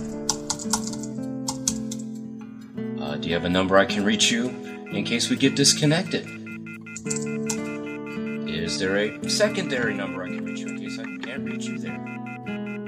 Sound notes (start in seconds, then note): 6.6 dial tone beeps